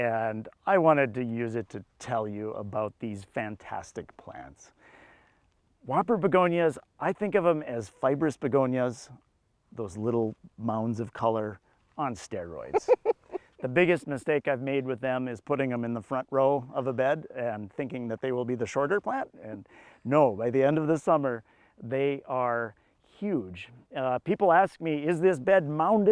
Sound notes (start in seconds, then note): 11.0 laughs